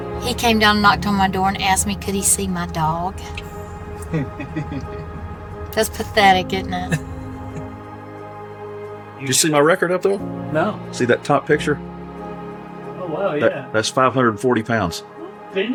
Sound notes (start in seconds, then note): 4.0 laughing